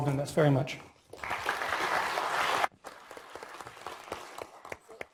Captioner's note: applause